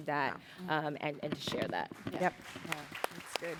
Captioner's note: applause